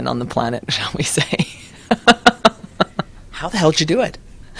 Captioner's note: laughter